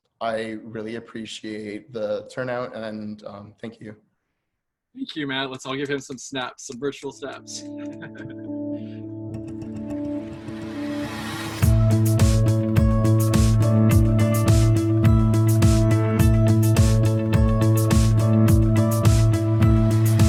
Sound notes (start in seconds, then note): 7.5 laughing; 10.3 uptempo light music